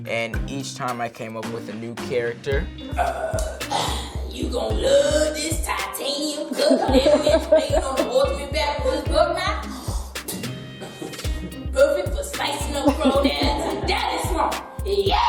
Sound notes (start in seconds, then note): 2.8 groans; 7.8 camera crew laughing; 9.9 snorting